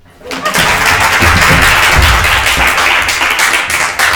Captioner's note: crowd applauding